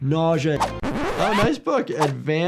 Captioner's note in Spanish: rayado del disco